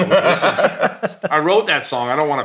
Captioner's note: all laughing